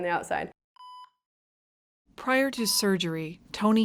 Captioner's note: machine beeping